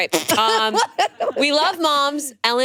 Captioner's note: group laughing